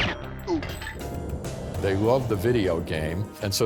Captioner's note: grunts; gunshot